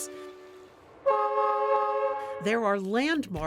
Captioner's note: train horn toots